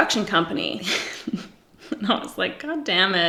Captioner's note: giggles